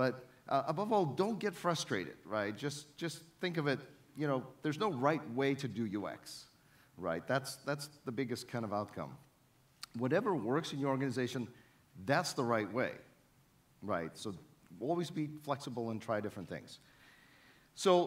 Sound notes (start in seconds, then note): none